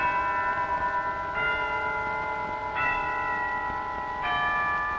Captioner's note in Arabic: رنين الأجراس